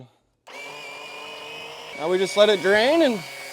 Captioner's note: pump whirs